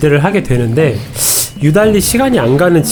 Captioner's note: tsk~